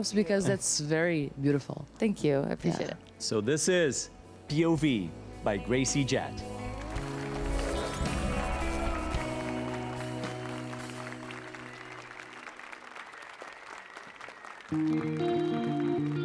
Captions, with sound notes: because that's very beautiful. Thank you I appreciate it. So this is POV by Gracie Jet [APPLAUSE AND CHEERS]